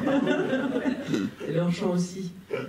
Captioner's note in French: rires